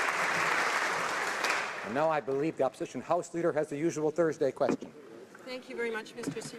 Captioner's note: applause